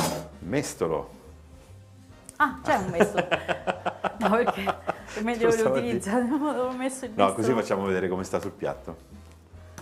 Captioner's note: Risate